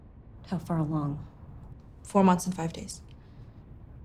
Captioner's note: none